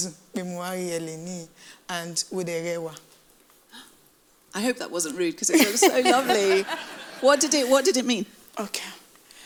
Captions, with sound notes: - I hope that wasn't rude 'cause it was so lovely. (laughs) What did it mean?